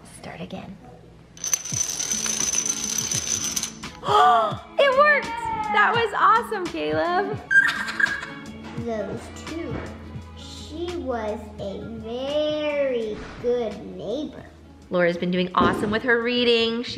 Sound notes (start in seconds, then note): 3.9 gasps; 7.5 laughing